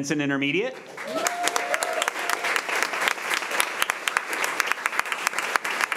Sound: crowd cheering and clapping

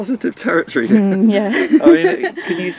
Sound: laughs

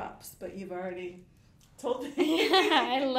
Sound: laughing

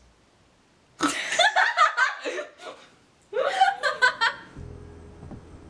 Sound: laughter

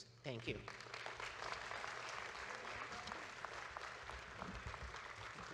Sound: audience claps

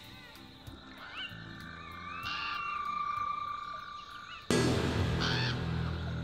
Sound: frogs croaking; ominous music

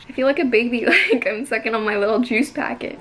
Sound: laughs

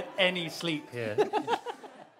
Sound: laughs

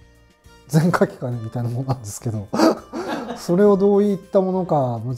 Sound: laughing

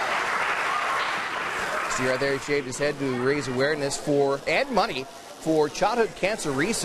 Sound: cheers

